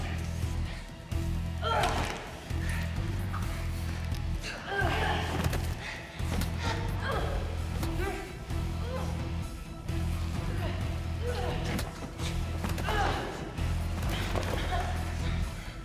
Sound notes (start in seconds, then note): 1.7 bones cracking; 1.7 tense music continues; 11.2 tense music continues